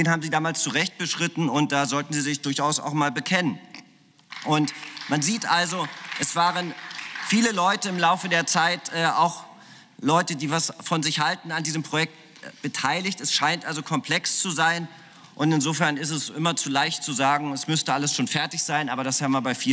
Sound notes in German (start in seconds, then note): 4.2 Beifall